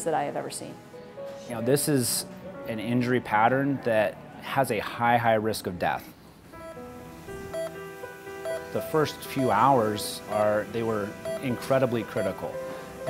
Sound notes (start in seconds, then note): 6.9 heart monitor beeping